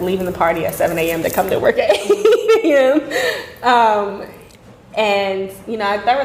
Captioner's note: laughing